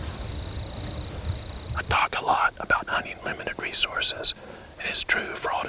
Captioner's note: whispering